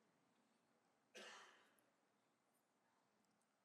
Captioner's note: coughs